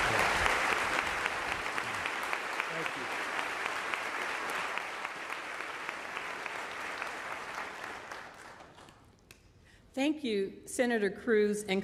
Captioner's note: applause